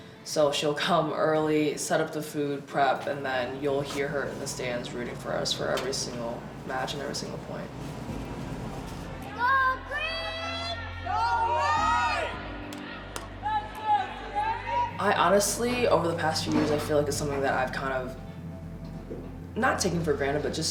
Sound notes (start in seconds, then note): 9.2 crowd shouting